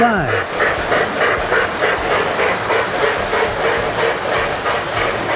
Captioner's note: trains whir and chug